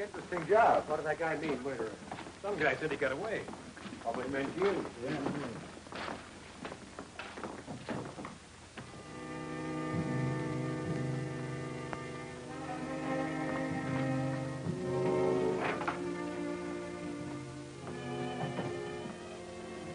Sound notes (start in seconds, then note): 2.4 medical staff chatters; 9.0 dramatic music